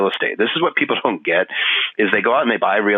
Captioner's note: laughing